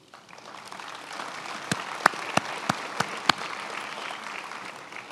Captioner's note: attendees applauding